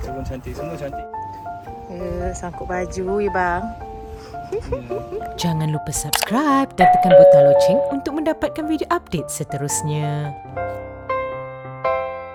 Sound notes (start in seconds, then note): 4.9 laugh; 12.1 background music